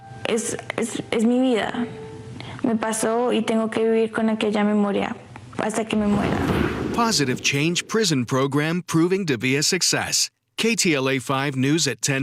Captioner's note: speaking spanish